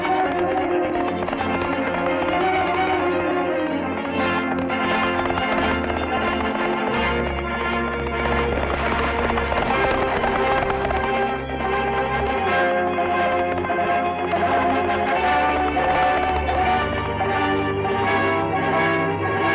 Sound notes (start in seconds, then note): 0.1 lively orchestral music; 4.2 horses galloping; 6.8 lively trumpet music; 9.5 horse galloping; 13.3 dramatic orchestral music